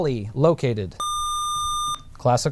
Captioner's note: buzzer